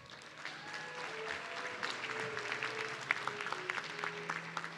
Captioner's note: audience clapping